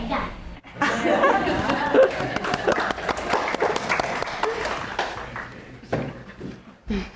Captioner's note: audience laughing; audience applauding